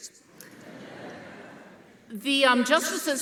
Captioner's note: audience laughing